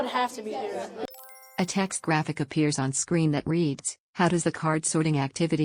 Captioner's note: chime